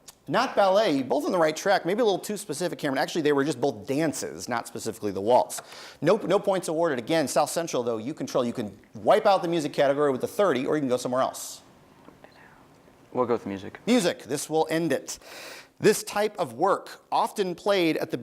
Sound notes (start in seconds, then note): 12.3 whispering